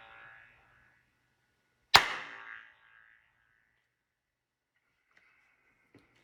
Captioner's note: clap